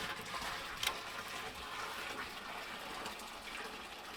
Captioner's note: water pouring